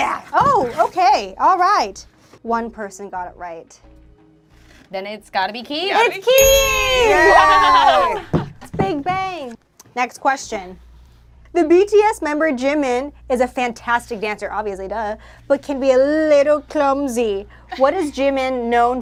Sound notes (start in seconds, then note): 6.4 group cheers